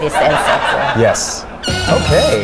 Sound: audience laughs

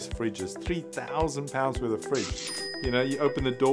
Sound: cash register dings

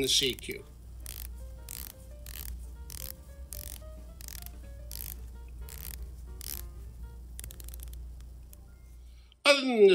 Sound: clicking sound

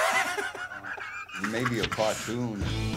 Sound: both laugh

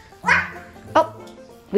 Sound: barking

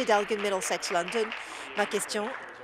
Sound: applause

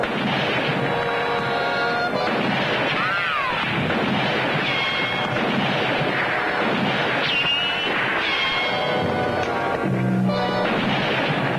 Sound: gunfire and dramatic music

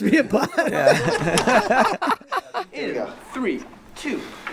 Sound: all laughing

